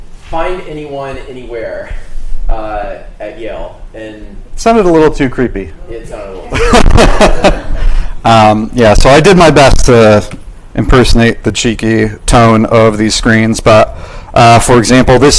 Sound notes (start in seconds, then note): 6.4 laughs